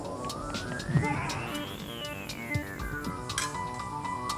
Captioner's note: fighting noises